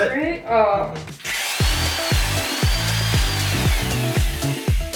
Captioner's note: drill whirs